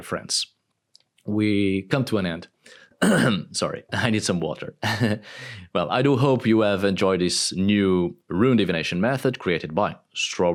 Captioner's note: coughing up